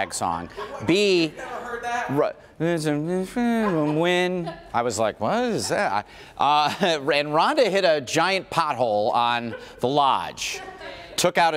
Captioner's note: laughter